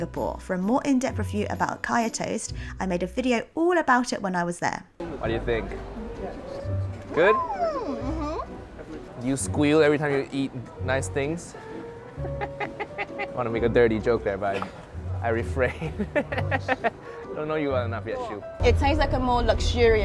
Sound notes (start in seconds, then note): 7.2 squeals; 12.2 laughs